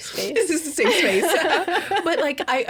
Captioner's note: laughing